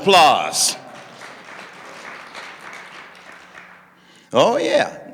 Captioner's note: audience clapping